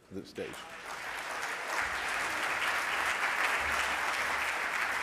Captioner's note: audience clapping